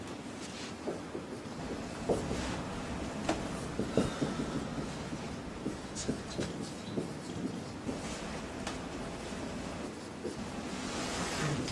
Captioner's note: marker writing on whiteboard